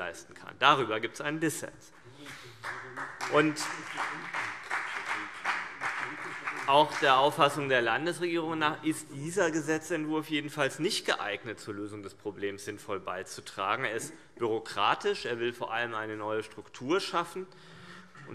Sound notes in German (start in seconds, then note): 2.2 Beifall BÜNDNIS 90/DIE GRÜNEN und vereinzelt CDU